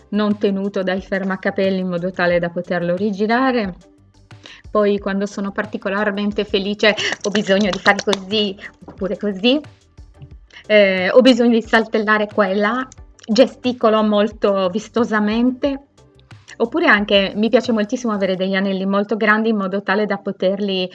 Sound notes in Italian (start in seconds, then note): 7.0 batte le mani